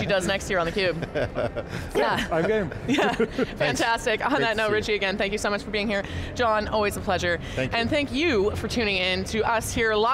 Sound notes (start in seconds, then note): 0.6 laughs